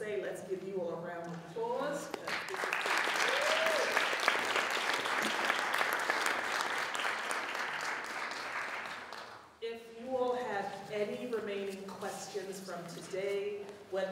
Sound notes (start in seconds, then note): 2.3 audience applauding; 2.9 audience cheering